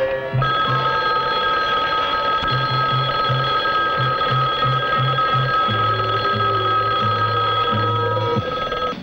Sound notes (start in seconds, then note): 0.9 alarm ringing